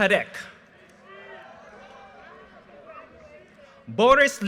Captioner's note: audience cheers and applause